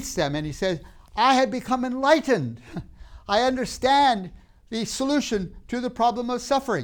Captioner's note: laughs